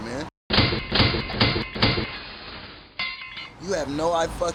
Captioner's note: metal clanks dramatically